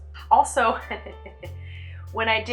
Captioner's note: giggle